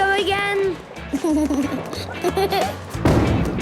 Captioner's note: giggles